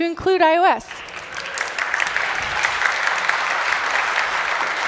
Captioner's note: applause